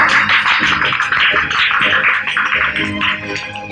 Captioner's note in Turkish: Alkışlar